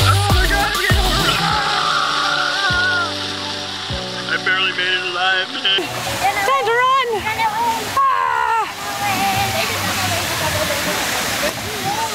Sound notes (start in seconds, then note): 1.4 screams; 8.0 screams; 9.5 chattering